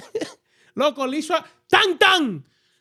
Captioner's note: speaking In Foreign Language